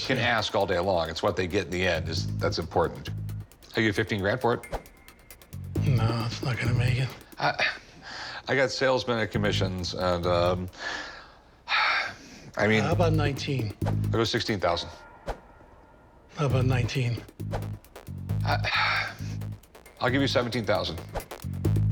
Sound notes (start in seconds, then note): 5.6 scoffs; 11.1 sighs